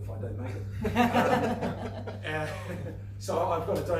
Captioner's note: laughing